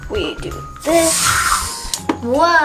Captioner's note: air blowing